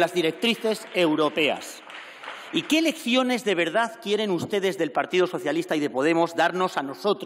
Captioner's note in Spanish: Aplausos